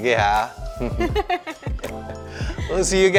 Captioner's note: laughs